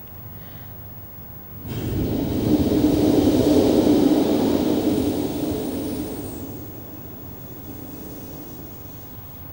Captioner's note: blows into the microphone